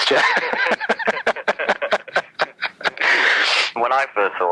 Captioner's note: laughs